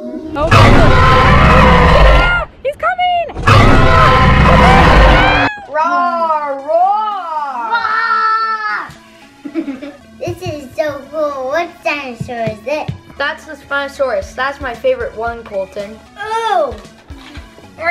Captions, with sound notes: [roar] ah ah he's coming [roaring] watch out [playful roars] this is so cool what dinosaur is it that's the spinosaurus that's my favorite one colton